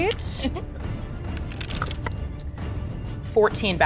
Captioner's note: dice rattles